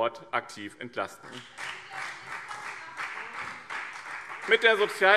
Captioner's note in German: Beifall BÜNDNIS 90/DIE GRÜNEN und vereinzelt CDU